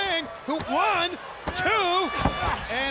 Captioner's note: hands thudding; blows thudding